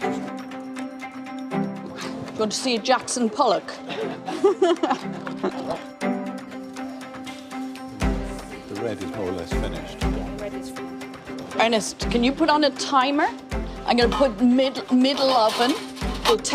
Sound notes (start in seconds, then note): 7.6 laughs; 8.2 playful music